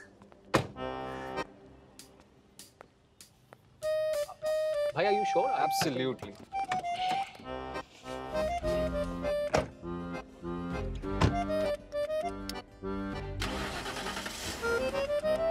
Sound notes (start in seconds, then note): 0.5 car door closes; 6.6 car door opens; 9.6 car door closes; 13.4 engine starts